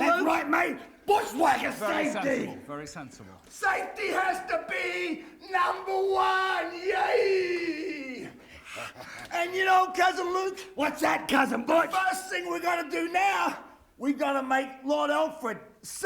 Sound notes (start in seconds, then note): 9.1 laugh